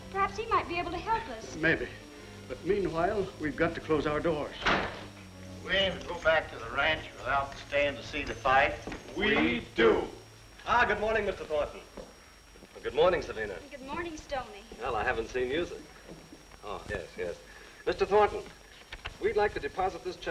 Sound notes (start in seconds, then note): 6.1 door closing